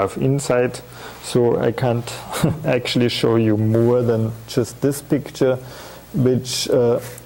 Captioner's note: chuckling